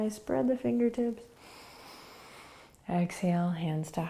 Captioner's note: inhaling